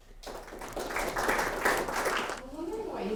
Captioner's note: audience applauding